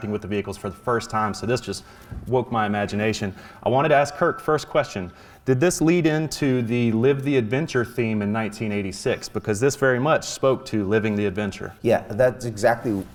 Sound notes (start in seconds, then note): none